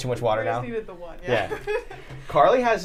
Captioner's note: laughs